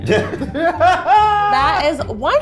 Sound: laughing

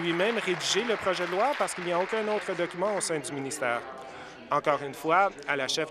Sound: applause

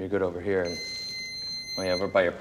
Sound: wand beeping

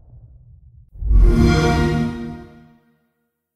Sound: xbox sound

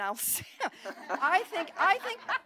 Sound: laughter

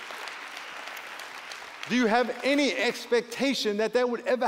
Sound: applause

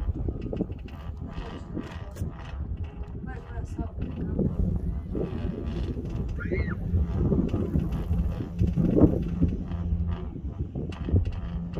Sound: wiind gushing

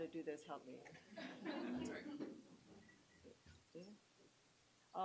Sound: laughter

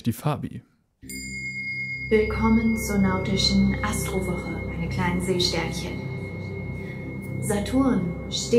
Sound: chime rings

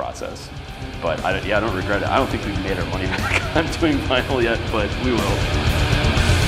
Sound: laughs

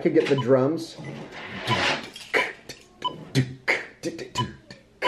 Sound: imitates drumbeat

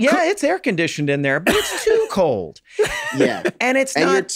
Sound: Charlie laughs

